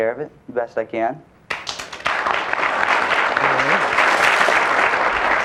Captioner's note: audience applauds